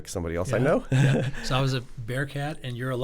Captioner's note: chuckles